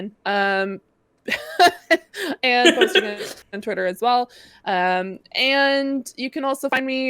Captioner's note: laughter